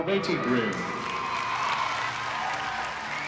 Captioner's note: crowd cheering, clapping